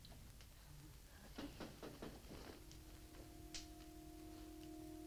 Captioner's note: tapping on window